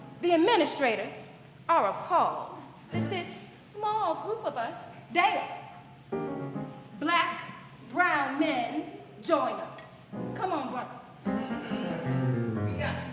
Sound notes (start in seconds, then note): none